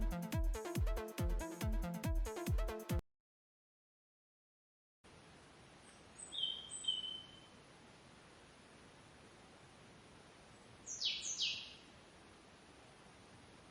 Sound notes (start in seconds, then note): 7.1 ambient forest sound